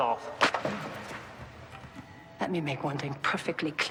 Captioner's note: slap cracking